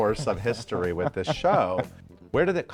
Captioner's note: chuckling